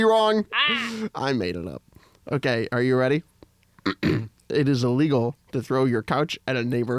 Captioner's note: clears throat